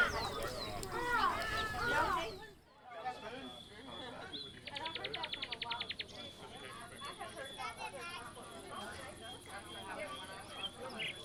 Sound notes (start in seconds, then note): 3.3 crickets chirping; 4.0 birds singing